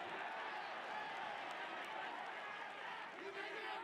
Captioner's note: cheering